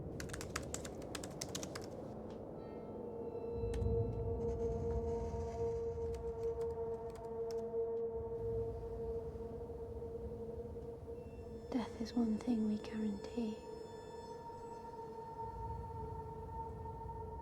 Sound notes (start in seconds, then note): 0.2 laptop keyboard clicking; 6.9 laptop keyboard clicking